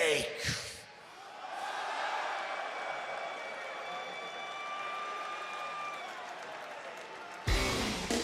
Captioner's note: crowd cheering